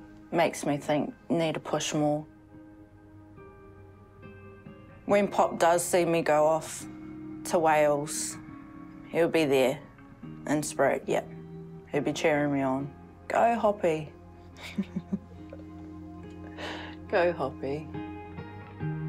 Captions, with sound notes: makes me think I need to push more. When Pop does see me go off to Wales, he'll be there, in spirit. Yeah, he'll be cheering me on. 'Go, Hoppy.' (GIGGLES) 'Go, Hoppy.'